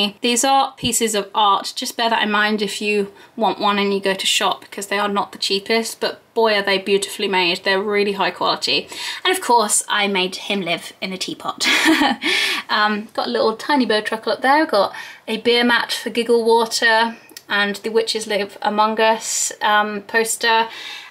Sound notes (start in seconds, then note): 11.7 laughs